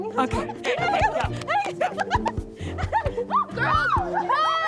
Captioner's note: girls giggling